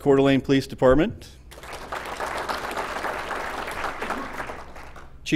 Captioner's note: applause